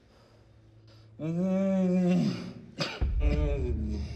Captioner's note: Roy moaning